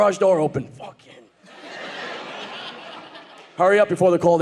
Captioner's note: audience laughing